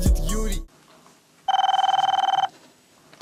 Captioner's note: intro theme; phone rings